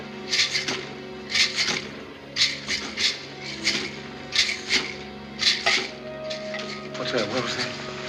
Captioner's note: jlNGLlNG